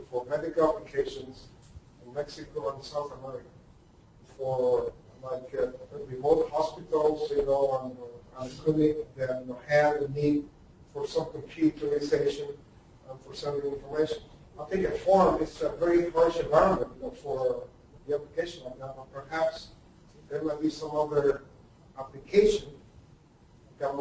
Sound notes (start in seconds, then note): 8.4 distorted speech; 12.0 distorted speech